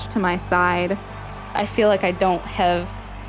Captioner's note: crowd cheering